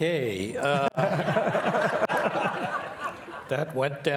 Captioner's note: and participants laughing